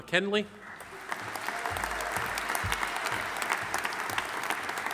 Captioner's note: audience applauding